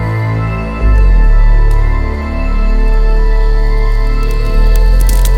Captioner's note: fire crackling; foreboding music continues